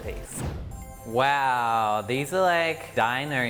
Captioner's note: soft whoosh